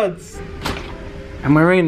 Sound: door clicks

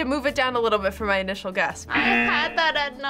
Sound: buzzer rings

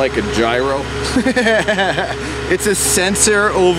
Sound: laughing

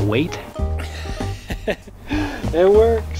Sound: laughs

